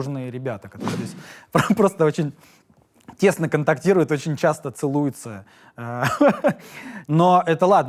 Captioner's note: laughs